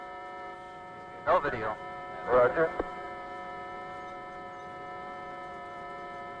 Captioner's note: signal beeping